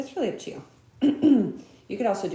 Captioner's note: clears throat